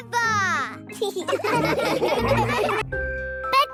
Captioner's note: laughing